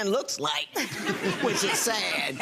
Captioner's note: audience laughs